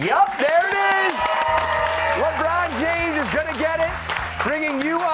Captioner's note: cheers and applause